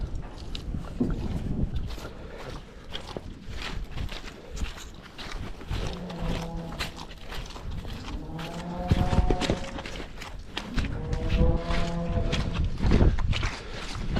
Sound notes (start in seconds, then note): 5.7 cows mooing; 10.5 cows mooing